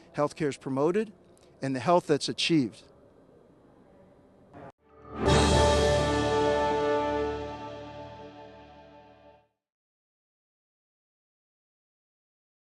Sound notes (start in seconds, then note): 4.8 high pitched key